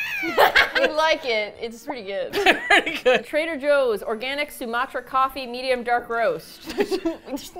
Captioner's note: screams with their mouth closed; cracks up; laughs; laughing; both giggling